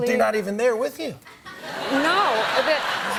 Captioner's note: laughter